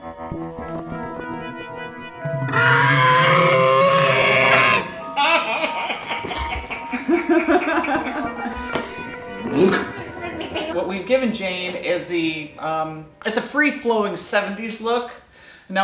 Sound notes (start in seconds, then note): 2.5 screams; 5.1 laughs